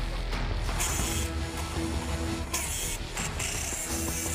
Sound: drilling

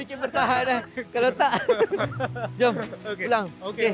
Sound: laugh

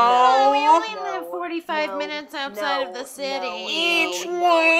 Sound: baby talk

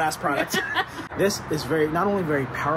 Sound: laughs

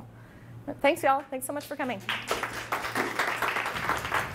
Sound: clapping

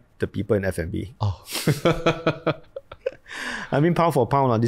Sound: laughs

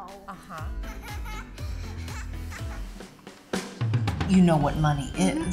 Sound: laughter

